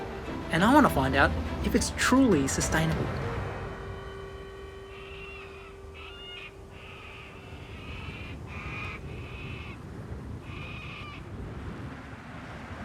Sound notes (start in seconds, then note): 4.8 bird squawks